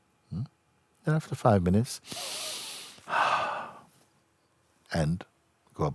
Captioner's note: inhales deeply then puts hands together